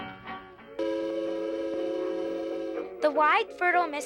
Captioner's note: loud horn